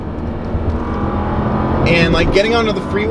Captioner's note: car revving